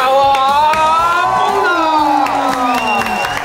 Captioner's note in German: Jubel, Applaus